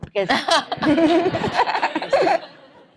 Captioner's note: laughter